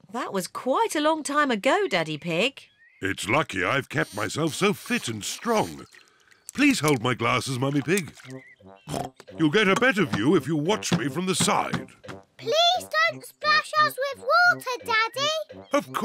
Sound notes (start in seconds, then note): 8.9 oinks